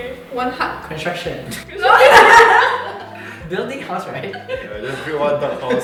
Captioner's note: laughter bc funny